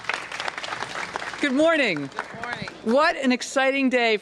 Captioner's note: applause